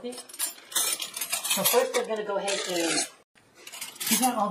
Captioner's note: flatware clanking